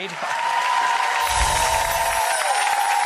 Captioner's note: applause